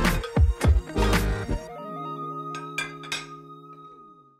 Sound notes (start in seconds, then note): 2.5 cutlery noises